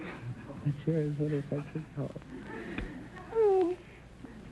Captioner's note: whispering; sighing